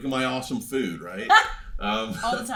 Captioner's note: laughs